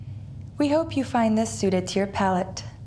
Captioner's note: none